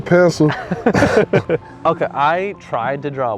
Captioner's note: both laugh